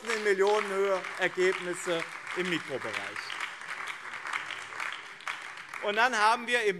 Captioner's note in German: Beifall BÜNDNIS 90/DIE GRÜNEN